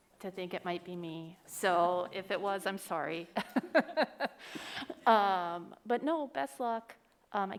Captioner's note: laughs